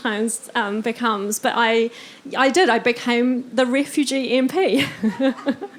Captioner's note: laughing